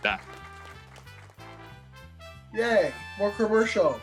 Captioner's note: audience clapping